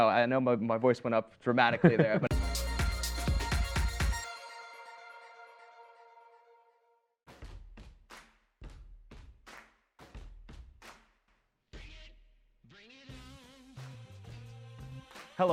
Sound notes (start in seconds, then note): 1.8 laughs; 2.3 techno music